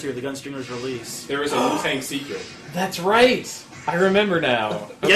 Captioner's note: gasps